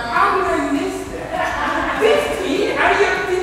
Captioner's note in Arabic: يضحك الجميع